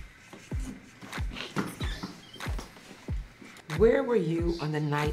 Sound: door opens

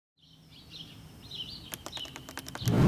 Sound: birds chirping; letters tap onscreen

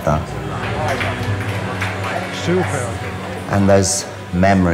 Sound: clapping

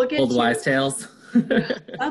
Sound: laughs

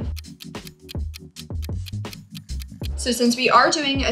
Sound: clock ticking

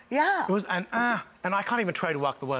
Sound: sounds disgusted

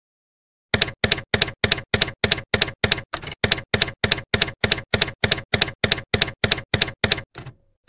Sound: typewriter keys clacking

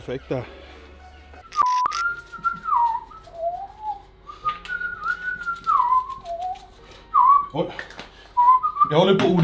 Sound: whistling

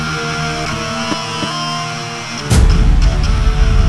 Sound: punching

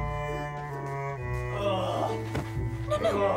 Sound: groans

